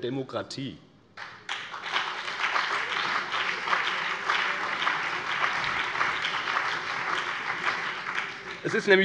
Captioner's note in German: Beifall BÜNDNIS 90/DIE GRÜNEN und CDU